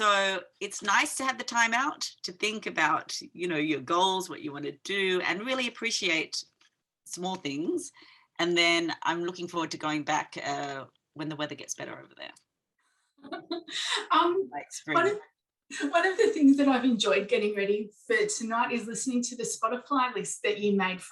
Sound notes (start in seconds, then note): 13.2 chuckling